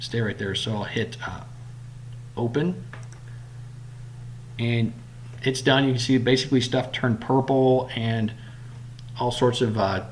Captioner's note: click